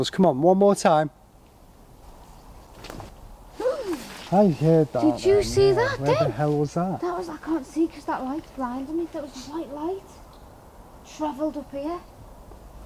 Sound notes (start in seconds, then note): 3.0 gentle thudding; 4.0 gasping